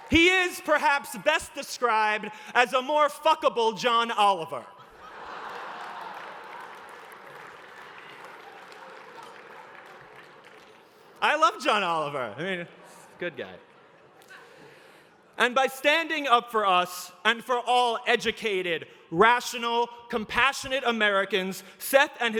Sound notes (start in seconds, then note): 4.7 laughter